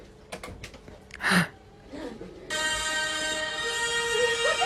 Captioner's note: overexaggerated gasps